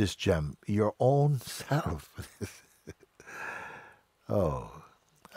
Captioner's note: lacht